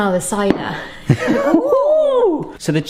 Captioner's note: laughing